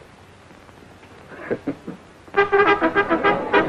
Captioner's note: Red chuckling